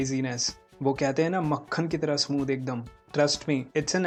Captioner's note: in hindi